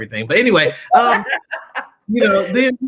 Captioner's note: laughter